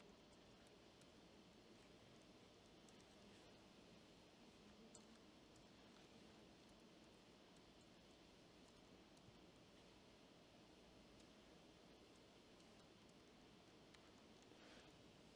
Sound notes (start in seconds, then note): 2.7 typing